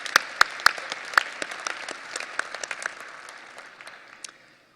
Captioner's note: audience applause